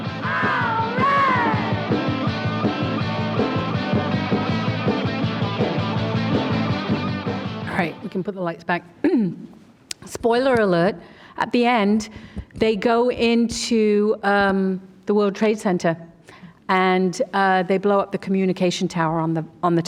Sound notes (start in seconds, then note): 7.9 rock music; 9.6 clears throat